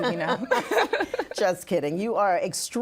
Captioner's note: laughing